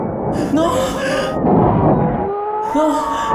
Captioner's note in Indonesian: Pekikan; Jeritan